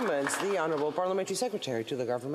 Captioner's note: applause